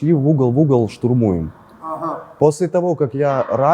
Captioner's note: Russians shouting "Go, go!"